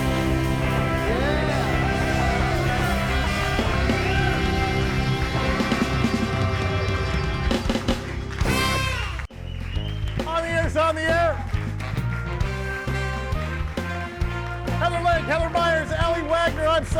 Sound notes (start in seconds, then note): 2.3 upbeat music continues; 11.7 audience applauding; 11.7 upbeat music